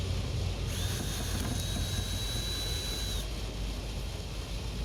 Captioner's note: drilling machine humming